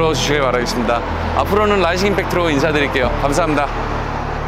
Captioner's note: rising impact